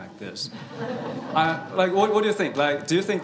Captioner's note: laughter